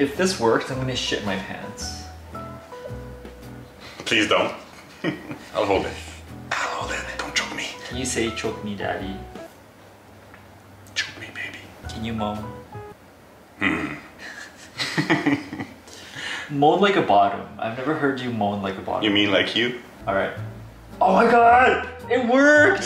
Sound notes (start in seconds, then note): 13.6 Max grunts